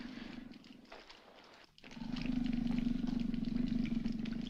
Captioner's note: growling Continues